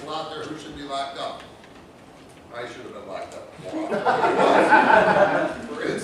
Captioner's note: laughter